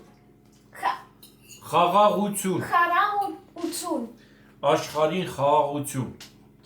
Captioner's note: speaking Armenian